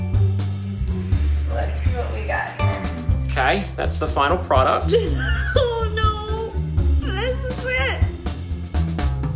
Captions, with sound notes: Let's see what we got here. OK. That's the final product. (Laughs) Oh no! This is it.